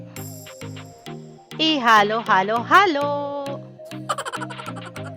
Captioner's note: laughing